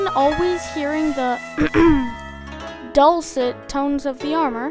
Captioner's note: ahem